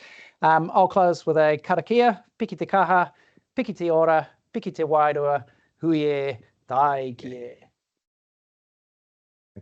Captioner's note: speaking te reo Māori